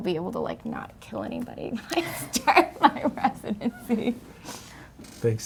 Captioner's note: laughs